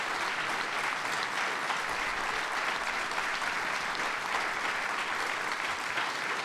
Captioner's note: applause